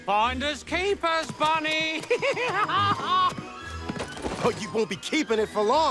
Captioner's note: laughs